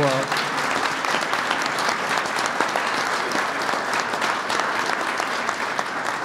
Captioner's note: applause